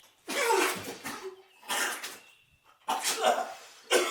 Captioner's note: Phil vomits